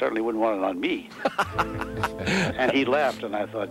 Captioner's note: laughing